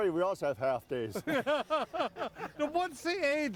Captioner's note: everyone laughs